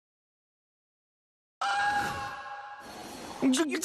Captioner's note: scream